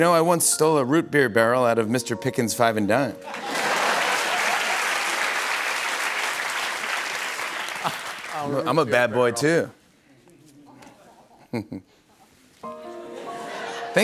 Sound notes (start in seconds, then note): 3.2 laughter and applause